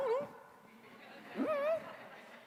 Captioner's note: laughter